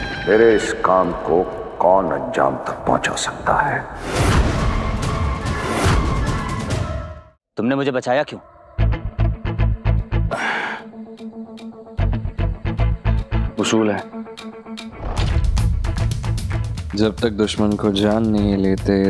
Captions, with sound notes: who can help me with this. [dramatic music plays] Why did you save me? [sighs] It's my rule! Unless I know who my enemy is,